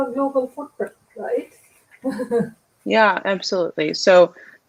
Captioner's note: laughter